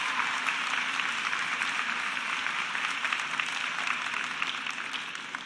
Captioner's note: cheers and applause